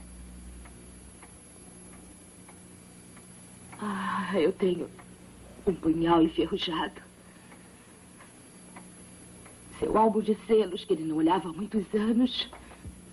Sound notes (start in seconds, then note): none